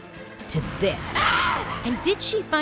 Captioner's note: intense cinematic music; Azula screams